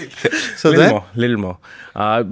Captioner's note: laughs